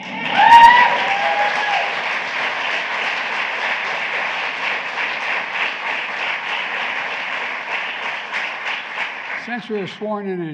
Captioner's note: applause